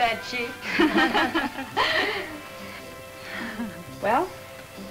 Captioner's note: women laugh